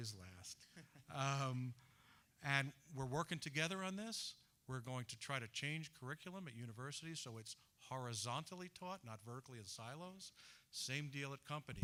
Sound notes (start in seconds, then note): 0.7 laughter